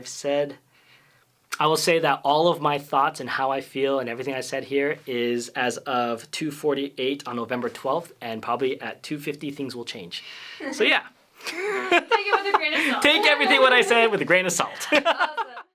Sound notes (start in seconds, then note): 11.4 laughter